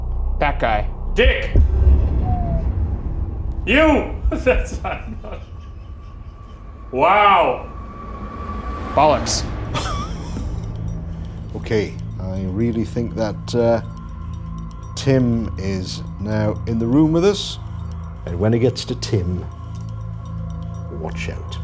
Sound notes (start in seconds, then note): 1.5 music booming; 4.1 chuckling; 9.6 chuckling